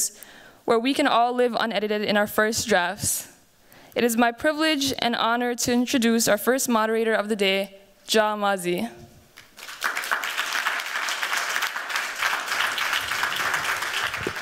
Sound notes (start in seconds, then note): 9.3 applause